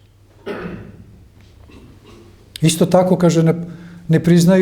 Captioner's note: coughs